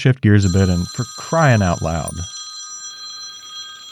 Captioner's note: phone ringing